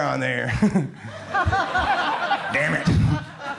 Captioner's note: crowd laughs